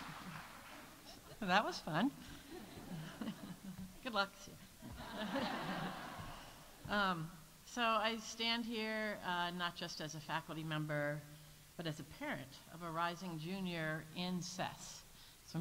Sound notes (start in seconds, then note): 2.3 audience laughs